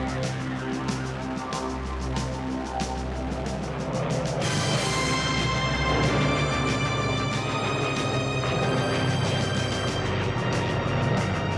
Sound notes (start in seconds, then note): 4.7 dramatic music; 4.7 plane roaring